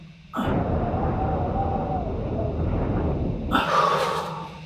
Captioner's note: wind howling